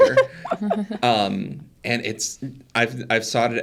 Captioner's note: participants laughing